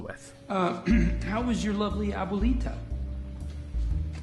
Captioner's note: cough